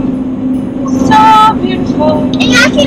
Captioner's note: in sing-song voice